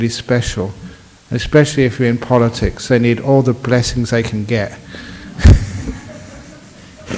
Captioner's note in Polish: śmiech